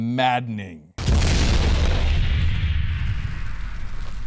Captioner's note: explosion